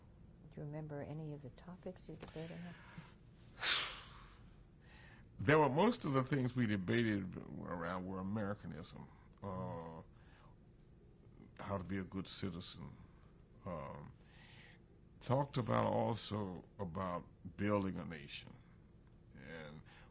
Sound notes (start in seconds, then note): 9.6 pauses for 3 seconds